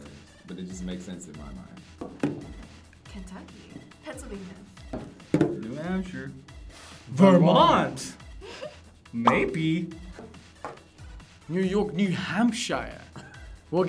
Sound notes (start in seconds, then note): 8.4 giggles